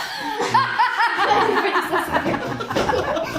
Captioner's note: mom laughing